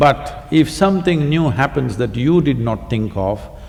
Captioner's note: none